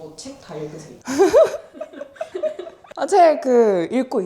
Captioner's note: laughing